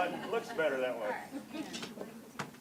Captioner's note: cameras clicking